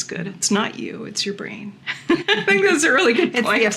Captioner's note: laughing